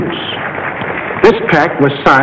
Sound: crowd applauding

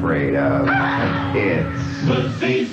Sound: person screams

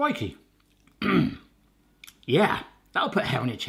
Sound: clears throat

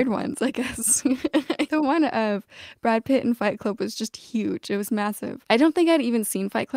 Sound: laughter

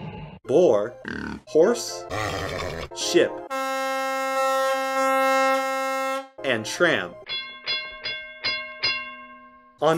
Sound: snort; roar; horn sound effect; trolley bus ringing

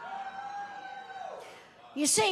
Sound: audience cheering

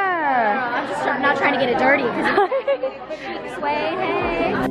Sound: laughing

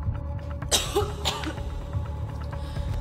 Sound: coughs

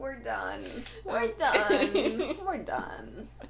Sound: laughter

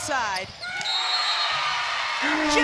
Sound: whistle; cheering

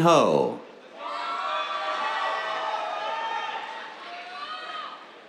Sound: cheers, applause

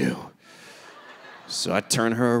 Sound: audience laughing

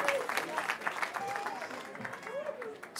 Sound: cheering

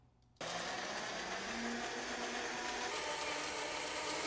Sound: blender whirring

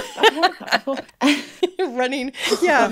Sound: laughing

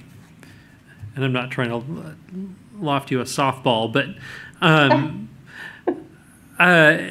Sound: laughs

